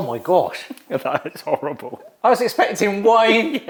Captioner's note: laughs